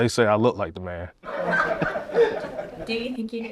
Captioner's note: laughter